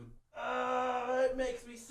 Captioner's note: frustrated